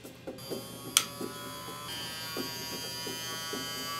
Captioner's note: smoke gun buzzing